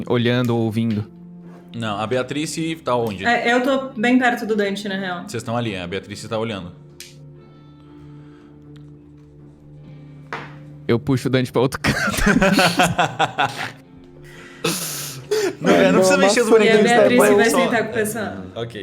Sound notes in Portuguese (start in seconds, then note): 11.8 risos